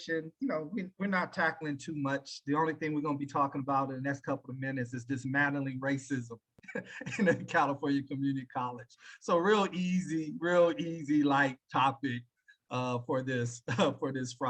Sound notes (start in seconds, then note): 6.7 laughing